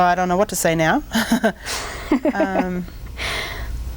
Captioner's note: laughing